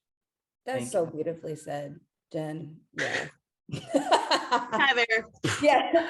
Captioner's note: laughs